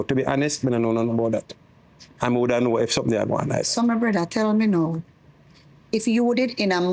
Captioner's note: speaking in foreign language